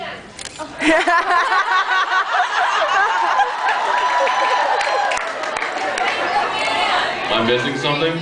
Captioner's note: laughs, cheers